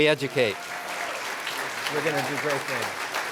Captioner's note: applause